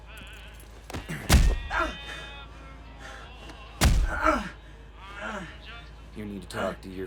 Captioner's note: grunting; thudding